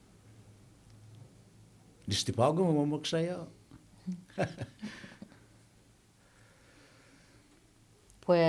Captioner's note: laughing